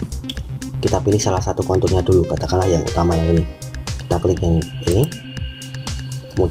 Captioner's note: click